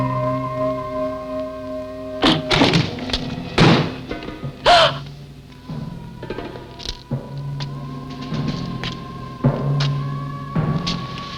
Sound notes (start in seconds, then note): 2.4 thudding; 4.6 gasping; 7.3 eerie music